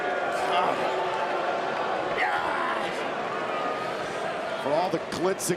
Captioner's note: crowd cheering